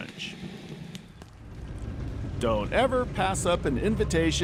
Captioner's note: fire crackling